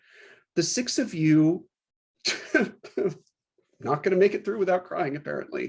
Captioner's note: laughing